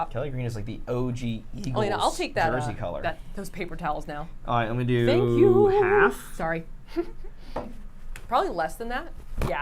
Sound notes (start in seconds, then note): 6.9 giggles